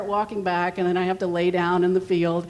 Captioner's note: none